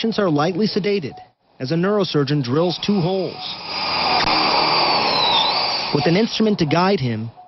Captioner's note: sound of drill